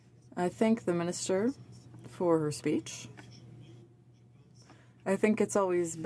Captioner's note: speaking french